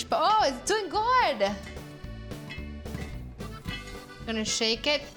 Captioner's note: popping